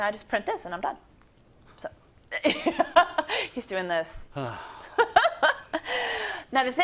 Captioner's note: laugh